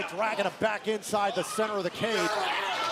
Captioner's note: crowd chatter